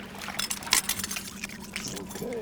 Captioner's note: clanking